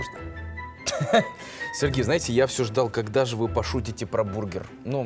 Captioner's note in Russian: смех